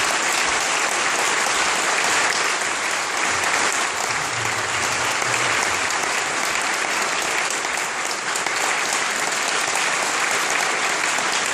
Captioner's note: applause